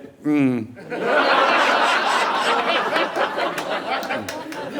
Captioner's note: audience laughing